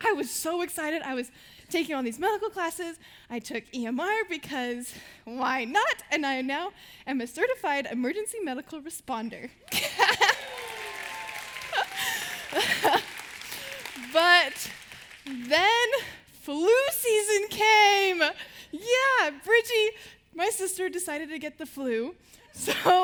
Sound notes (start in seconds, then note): 9.7 laughing